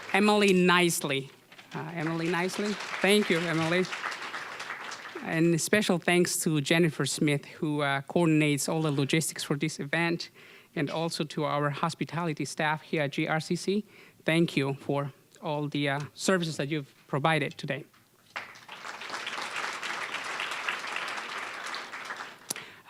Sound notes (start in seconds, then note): 4.4 applause; 18.2 applause